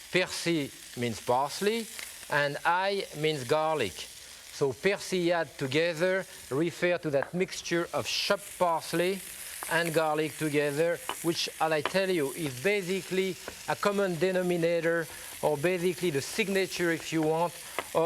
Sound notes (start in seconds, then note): 0.3 speaking in foreign language